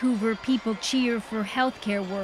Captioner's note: cheers and Applause